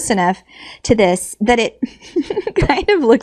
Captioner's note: laughs